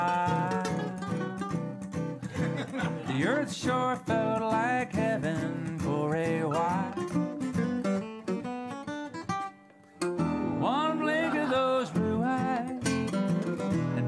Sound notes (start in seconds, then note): 0.0 ukulele riff; 6.8 laughter